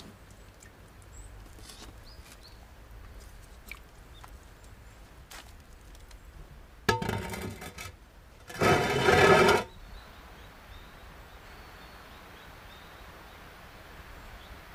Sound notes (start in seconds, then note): 8.4 lid scraping